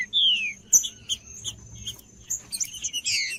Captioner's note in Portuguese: trinca ferro cantando